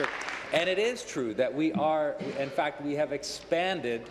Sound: applause

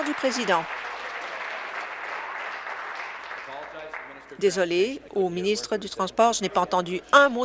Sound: applause

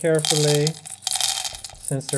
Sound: beans rattle

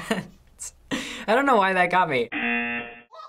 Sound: laughs; buzzer rings

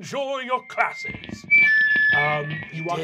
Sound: high pitched microphone feeding back

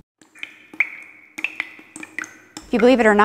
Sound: water dripping

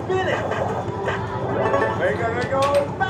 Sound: game chimes

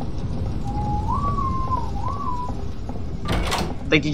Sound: oh Whistling :0

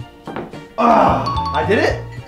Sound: groans; chimes

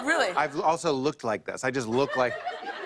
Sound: laughter

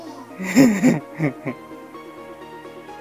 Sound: laugh

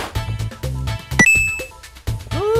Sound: coin sound

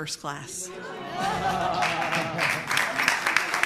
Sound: applause

